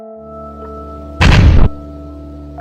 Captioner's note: explosion